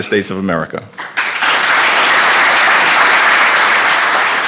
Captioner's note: applause